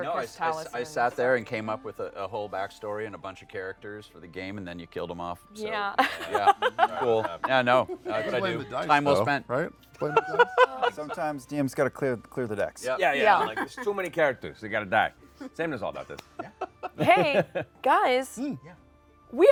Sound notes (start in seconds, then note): 5.9 laughs